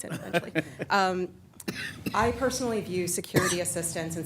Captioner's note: laughs